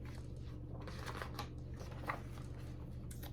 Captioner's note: page turns